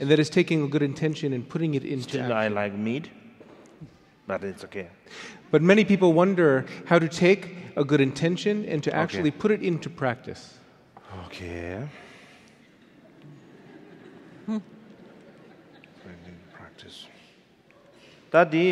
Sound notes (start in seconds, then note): 12.5 audience laughing; 18.5 speaking in foreign language